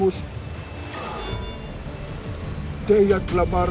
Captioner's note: device blips